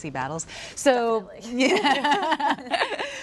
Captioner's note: laughter; laughs